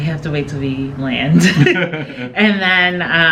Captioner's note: laughing